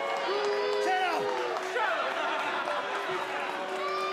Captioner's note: crowd cheering